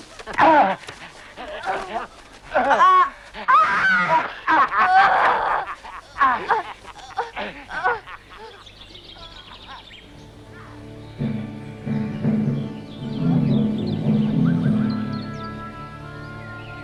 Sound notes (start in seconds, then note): 9.6 somber music; 9.7 birds chirping